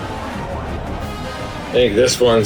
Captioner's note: crowd Noises